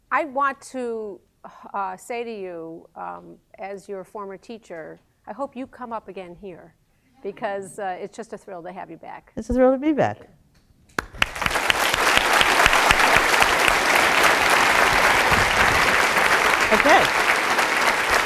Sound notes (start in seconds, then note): 10.9 applause